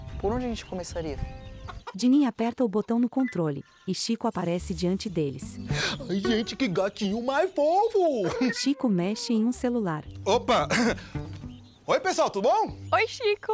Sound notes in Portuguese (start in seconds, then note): 1.2 Cacarejando; 10.6 Chico pigarreia